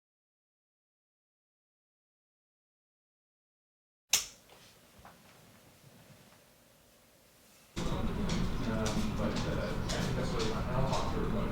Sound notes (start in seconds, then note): 4.1 light clicks; 7.8 voices chattering